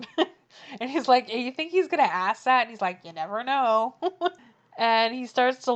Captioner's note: laughs